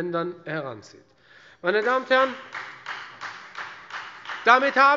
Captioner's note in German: Beifall Freie Demokraten